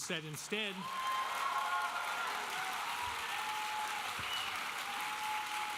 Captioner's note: audience cheering and applauding